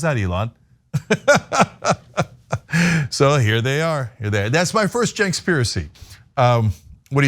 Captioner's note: laugh